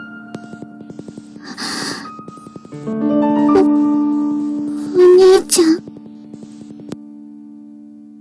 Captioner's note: breathes in